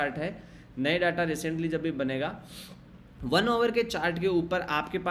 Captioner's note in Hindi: नाक से की जाने वाली आवाज़